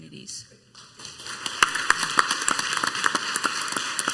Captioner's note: clapping